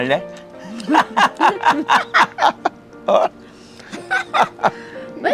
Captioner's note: both laughing